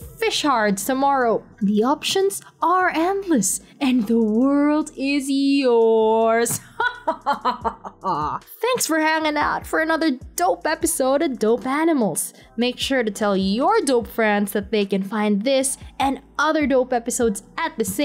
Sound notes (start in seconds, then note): 6.5 evil Laugh